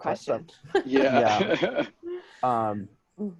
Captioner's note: laughing